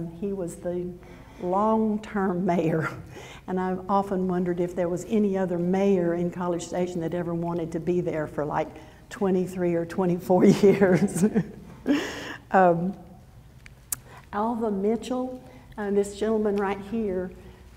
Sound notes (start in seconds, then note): 11.9 laughs